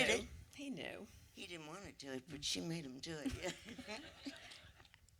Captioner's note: light laughter